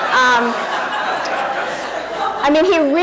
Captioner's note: audience laughing